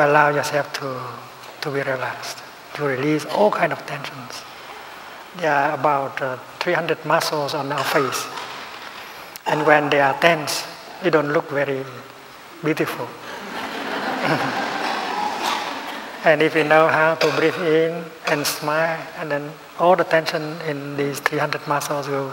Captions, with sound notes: You allow yourself to be relaxed, to release all kinds of tensions. There are about 300 muscles in our face and when they are tense you don't look very beautiful. (Laughter) If we know how to breathe in and smile then all the tension in these 300 muscles